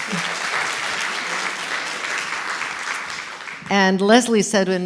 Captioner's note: applause